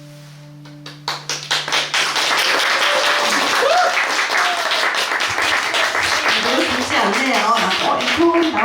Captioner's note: applause